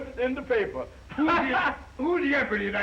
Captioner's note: laughs